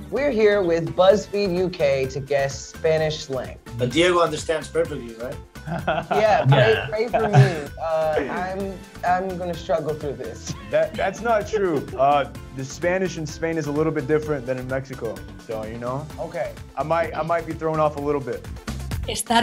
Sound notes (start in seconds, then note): 5.6 Diego laughs; 10.1 laughs